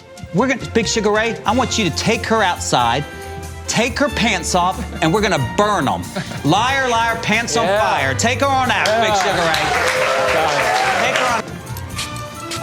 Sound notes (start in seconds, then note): 9.8 gallery applauds